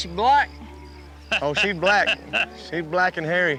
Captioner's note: chuckling